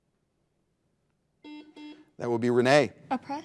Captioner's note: buzzer buzzing